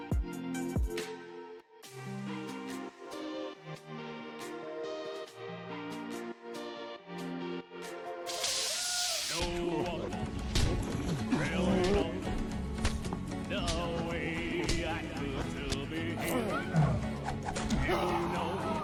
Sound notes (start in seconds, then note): 8.6 muffled screams of fighters